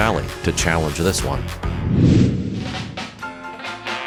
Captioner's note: whooshing; energetic music